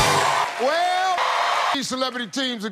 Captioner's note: the crowd screams for Steve